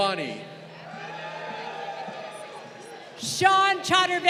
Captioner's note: crowd cheering